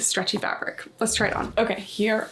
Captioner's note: graphic whooshing